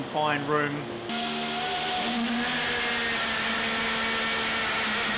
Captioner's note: engine revving